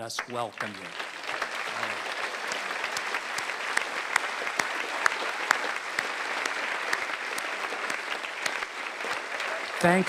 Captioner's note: applause